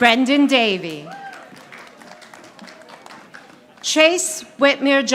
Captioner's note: audience applauding